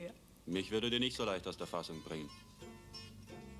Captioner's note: speaking german